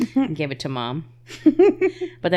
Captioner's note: laughing